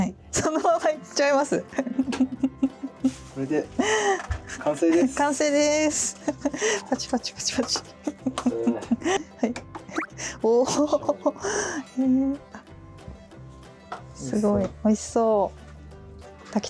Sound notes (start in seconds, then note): 8.2 clap clap clap clap